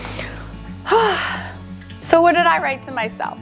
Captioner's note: heavy sigh